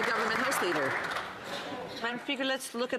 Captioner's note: some Applause